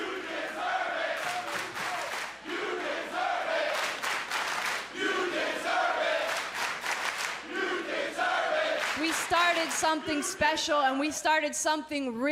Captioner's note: fans chanting